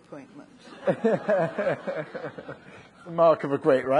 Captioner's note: people laughing